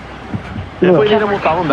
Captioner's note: chatter